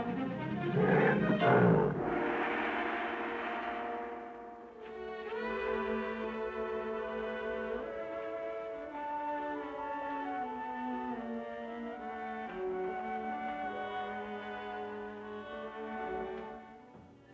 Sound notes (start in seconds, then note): 1.9 gong ringing; 6.4 smooth music